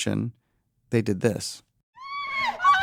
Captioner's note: ava and deborah scream excitedly